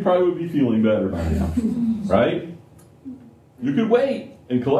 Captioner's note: laughter